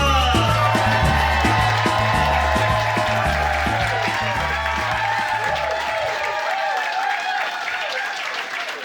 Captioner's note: cheers and applause